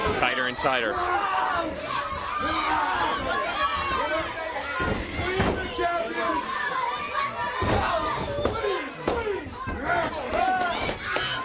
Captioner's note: crowd chatter